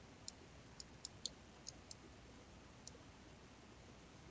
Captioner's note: mouse clicking